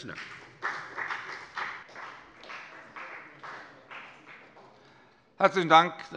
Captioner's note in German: Beifall bei der FDP